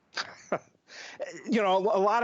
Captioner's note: laughter